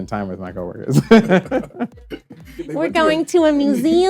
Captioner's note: laughs